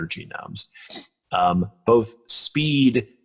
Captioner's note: nasal clearing